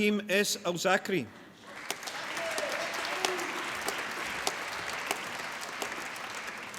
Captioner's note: applause